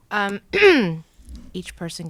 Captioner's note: clearing throat